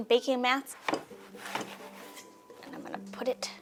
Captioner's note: hands swishing